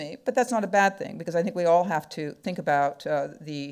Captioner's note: none